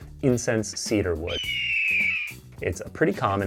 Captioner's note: hawk cries